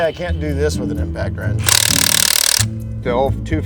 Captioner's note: impact wrench hammering